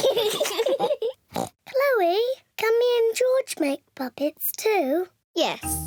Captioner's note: both giggle; oinks loudly; oinks; in normal voice